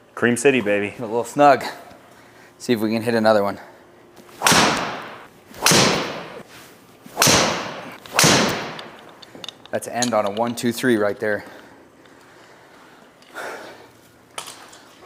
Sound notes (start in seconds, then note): 4.3 club smacks ball repeatedly